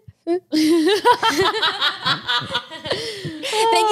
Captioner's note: laughs